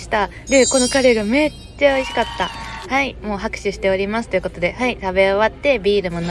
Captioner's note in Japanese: 拍手